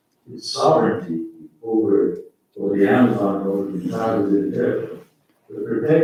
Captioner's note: faintly speaking